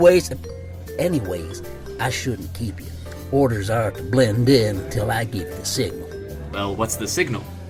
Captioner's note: quieter